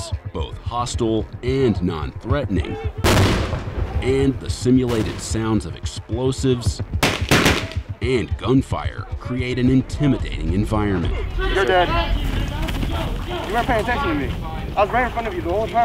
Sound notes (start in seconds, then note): 3.0 explosion; 7.0 gunfire